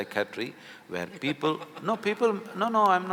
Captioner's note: Karan Johar laughs